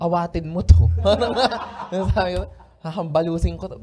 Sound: laughter

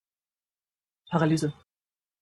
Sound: fast Pronunciation

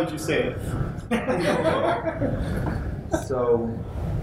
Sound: laughter

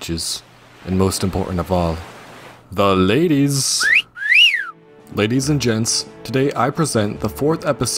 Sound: whistle

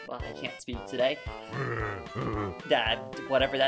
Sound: game audio

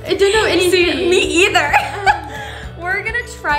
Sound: laughs

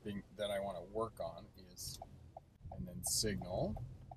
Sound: turn signal clicks

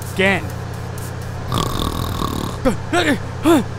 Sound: snoring

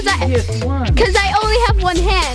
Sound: murmurs

